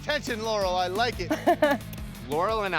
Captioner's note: laughs